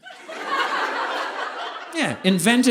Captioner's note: audience laughing